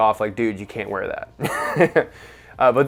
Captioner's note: chuckling